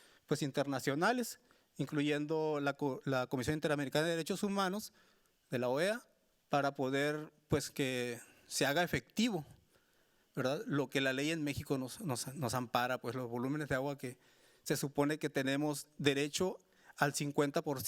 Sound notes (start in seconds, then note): 7.5 speaking Spanish continues